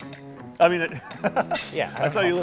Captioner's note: laughing